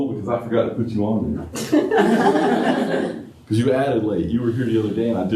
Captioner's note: laughter